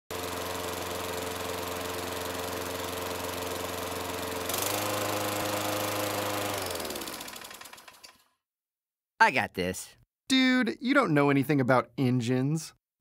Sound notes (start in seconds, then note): 0.1 lawn-mowing; 6.5 engine stops